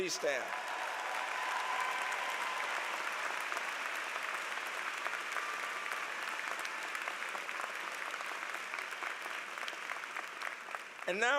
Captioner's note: applause